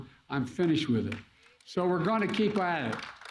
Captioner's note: applause